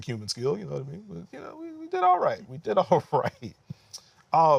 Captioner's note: laughter